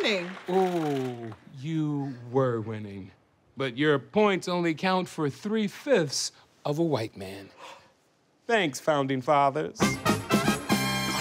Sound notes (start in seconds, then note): 7.1 gasps; 9.8 theme music plays